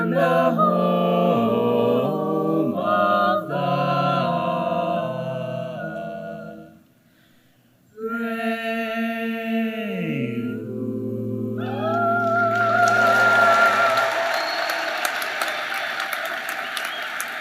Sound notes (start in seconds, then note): 11.9 applause